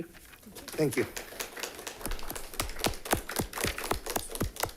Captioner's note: all clapping